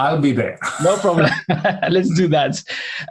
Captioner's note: laughs